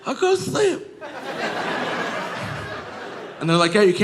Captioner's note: audience laughing